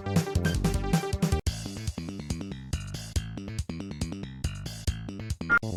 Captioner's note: generator